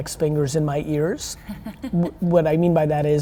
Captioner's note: laughs